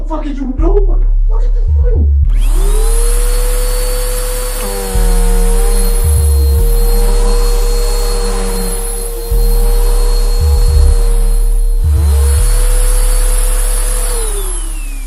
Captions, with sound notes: Girl, what the fuck is you doin'? Look at this money. (vacuum hums)